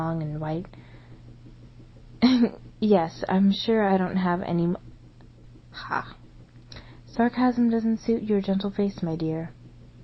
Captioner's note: chuckles